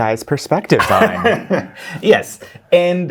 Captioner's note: guy laughing